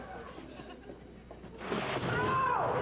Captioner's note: crash